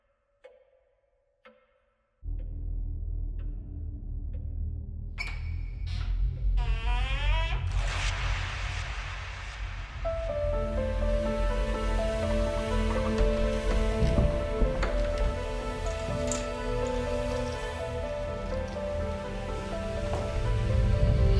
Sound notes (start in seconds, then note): 2.7 tense music; 6.5 door creaking; 10.5 tense music; 17.8 tense music continues